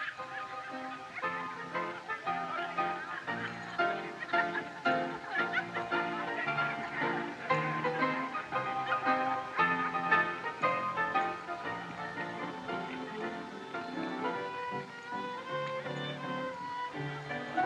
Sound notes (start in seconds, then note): 1.3 laughing Continues